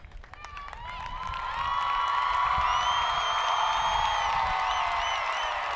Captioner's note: audience applauding